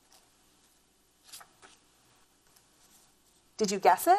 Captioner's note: paper rustles